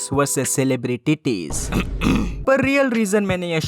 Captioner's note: clears Throat